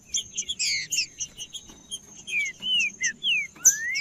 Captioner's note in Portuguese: trinca ferro cantando